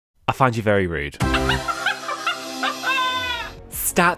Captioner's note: laughs